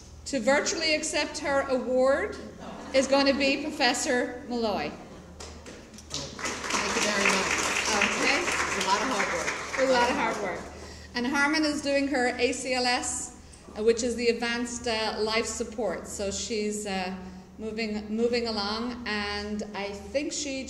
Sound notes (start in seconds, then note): 6.0 applause